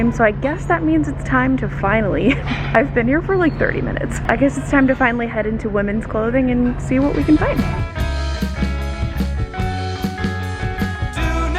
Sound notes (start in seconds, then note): 2.5 laughs; 7.0 upbeat music